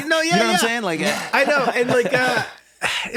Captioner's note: laughs